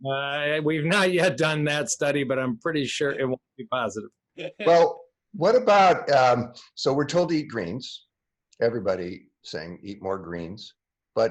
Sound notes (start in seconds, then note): 4.6 laughing